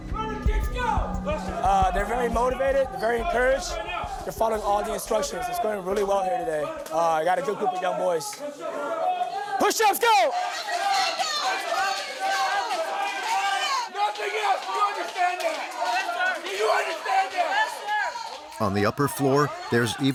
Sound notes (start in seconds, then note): 10.9 cadres yelling